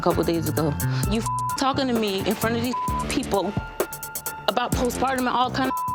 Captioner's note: beep; beep